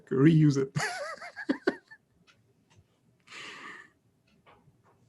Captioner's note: laughs